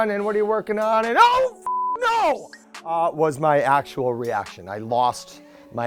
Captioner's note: beep